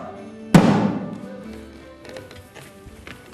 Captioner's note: πυροβολισμός